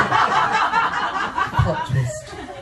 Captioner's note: laughter